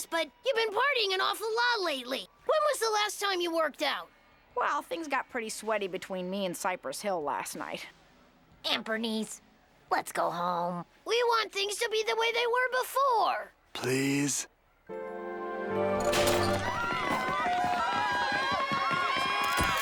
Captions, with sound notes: but you've been partying an awful lot lately. When was the last time you worked out? Well, things got pretty sweaty between me and Cypress Hill last night. Aunt Bernice, let's go home. We want things to be the way they were before. Please? (door opens) (fans yelling and screaming)